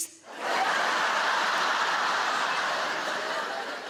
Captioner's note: audience laughing